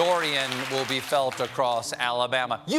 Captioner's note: applause